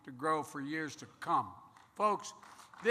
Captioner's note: applause